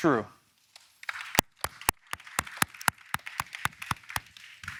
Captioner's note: audience applauding